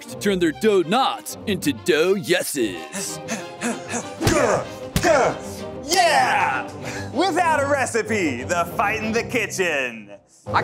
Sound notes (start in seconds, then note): 2.9 panting; 4.1 punching